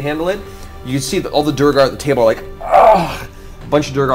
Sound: groans

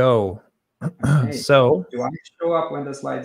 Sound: clears throat

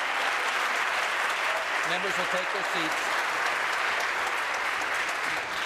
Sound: applause

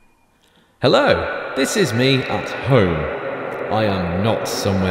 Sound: recording reverberates

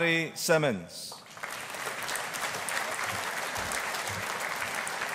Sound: audience applauding

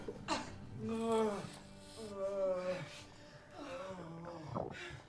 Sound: groaning

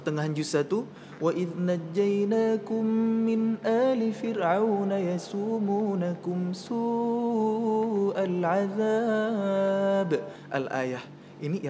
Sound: reciting quran

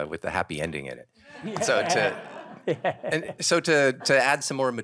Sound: audience laughing

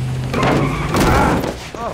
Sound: tires screeching; thud; moaning in agony

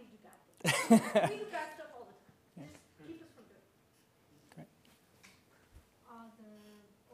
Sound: laugh

